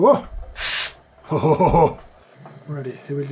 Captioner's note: guffaws